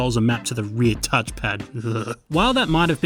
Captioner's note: shudders